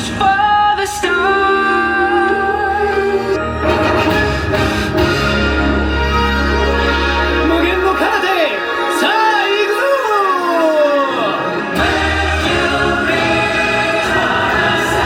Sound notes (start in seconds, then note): 4.2 dramatic orchestral music; 8.2 character speaking Japanese